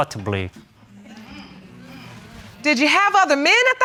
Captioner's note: audience murmuring